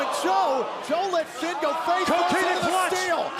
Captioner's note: crowd cheering